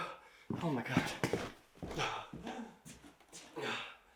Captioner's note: panting